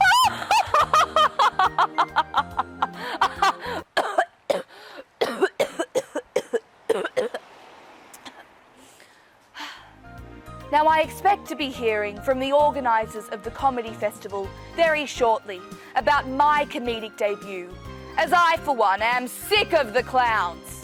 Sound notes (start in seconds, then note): 0.0 laughs; 5.1 coughs